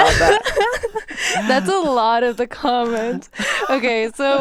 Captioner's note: laughs